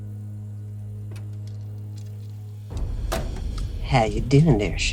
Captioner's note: door opens